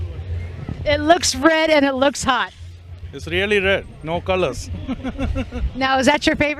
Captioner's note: chuckles